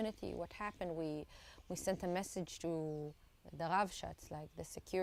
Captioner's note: hebrew